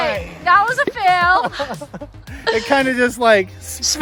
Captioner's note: laughing